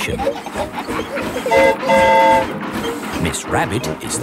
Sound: train whistle toots

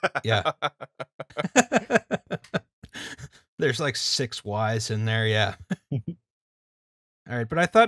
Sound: laughter

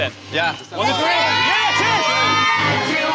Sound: cheers

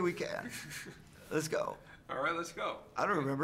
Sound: interviewer laughs

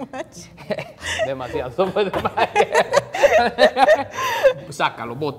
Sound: speaking in foreign language

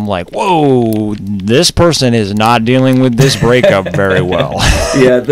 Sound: laughter

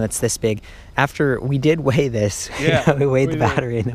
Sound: laughs

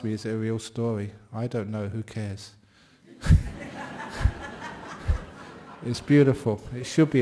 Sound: laughter

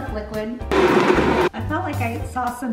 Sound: blender roaring

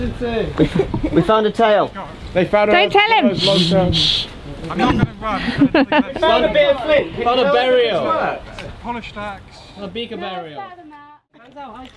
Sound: laughter

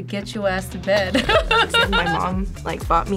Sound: both laugh

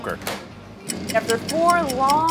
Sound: timer ticking

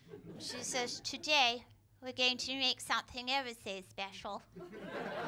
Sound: mary berry voice; laughter

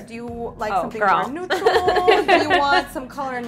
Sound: laughs

